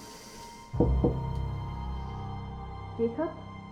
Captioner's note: knocking